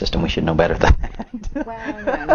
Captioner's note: both laughs